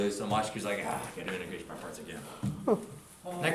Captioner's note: groans